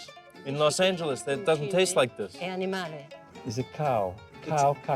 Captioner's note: both laughing